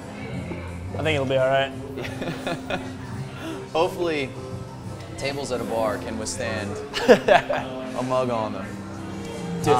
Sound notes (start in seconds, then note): 1.9 laughs; 6.9 laughs